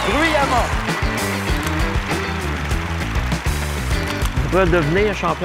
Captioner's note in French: applaudissements